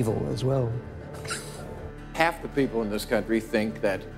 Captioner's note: chuckles